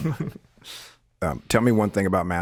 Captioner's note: Wisdom chuckles